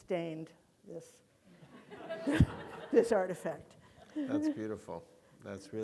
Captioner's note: audience laughing